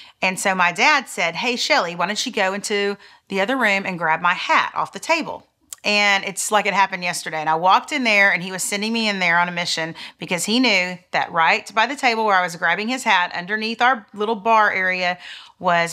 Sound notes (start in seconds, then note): none